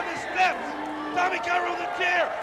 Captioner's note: crowd cheering